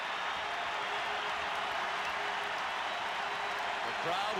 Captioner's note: applause